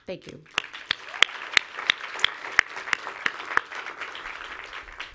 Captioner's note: audience applauds